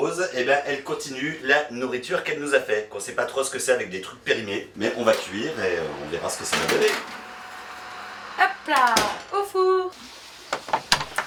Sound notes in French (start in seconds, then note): none